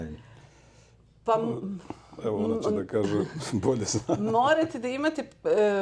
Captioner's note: laughs